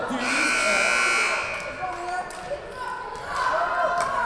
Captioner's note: buzzer buzzing